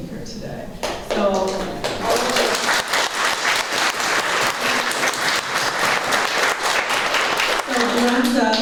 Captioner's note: applause